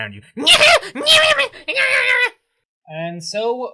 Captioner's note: snivveling Monster Noises